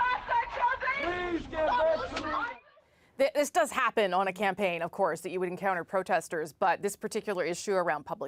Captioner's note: yelling